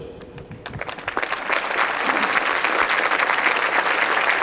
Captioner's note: applause